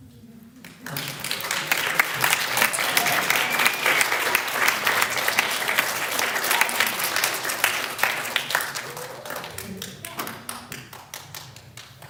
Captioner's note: applause